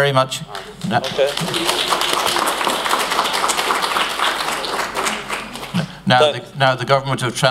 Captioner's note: applause